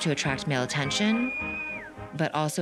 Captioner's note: whistles